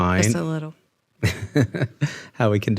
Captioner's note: chuckles